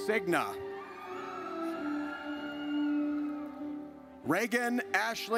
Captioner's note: audience cheers